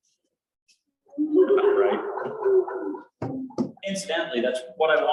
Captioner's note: laughter